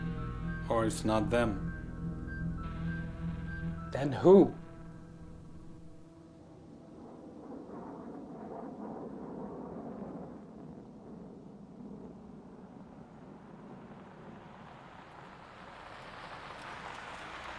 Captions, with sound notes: - Or it's not them. - Then who? (aircraft droning) (vehicle droning)